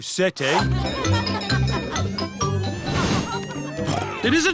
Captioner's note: cheerful jingling; oinks